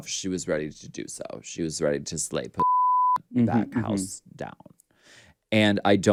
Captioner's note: beep